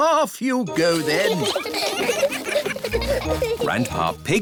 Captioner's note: giggling